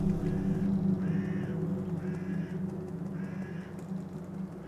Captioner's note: birds cawing